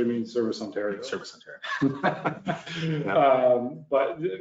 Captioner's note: laughs